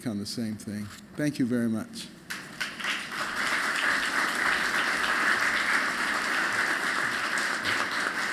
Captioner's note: applause